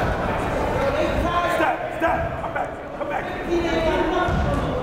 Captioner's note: yelling